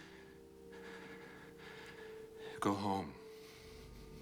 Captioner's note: breathing Unevenly